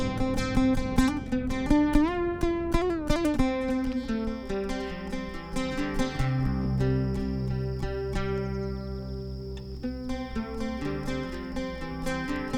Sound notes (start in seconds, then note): 0.3 acoustic music; 5.5 crickets chirping